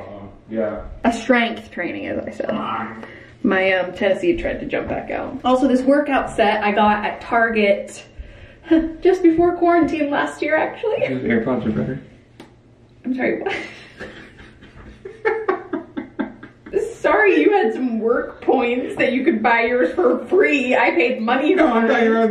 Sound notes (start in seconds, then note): 13.4 laughter